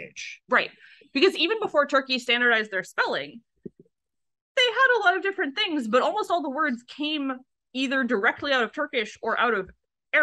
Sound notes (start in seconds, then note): none